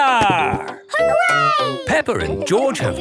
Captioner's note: laughing